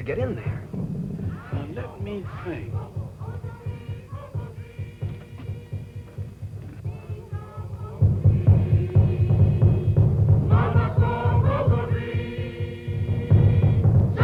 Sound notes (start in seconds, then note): 3.6 chanting continues